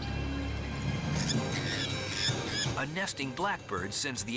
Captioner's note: dramatic music; bird squawking